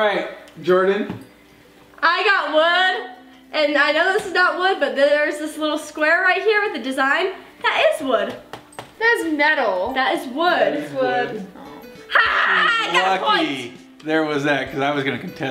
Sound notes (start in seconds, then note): 8.2 tapping sound